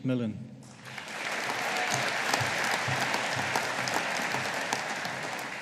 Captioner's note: audience applauding